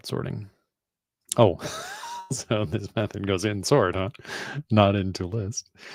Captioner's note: laughs